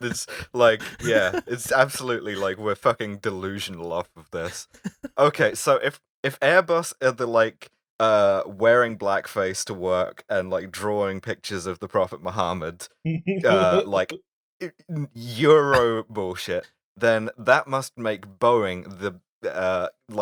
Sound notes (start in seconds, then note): 0.0 deranged laughter; 4.4 hauling us back on track voice; 13.5 laughter